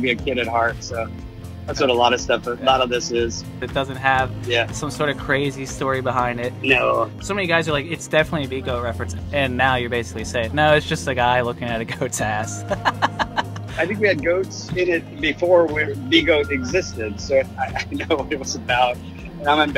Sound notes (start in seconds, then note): 12.6 laughs